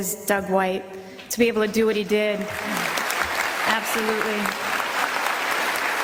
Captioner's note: applause; applause continues.. and grows louder